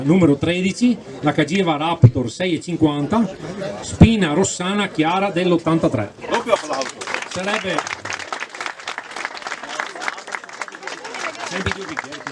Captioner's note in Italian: Applauso